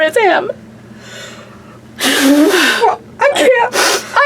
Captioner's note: gasping; pat